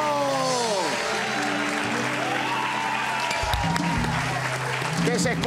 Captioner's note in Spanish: Aplausos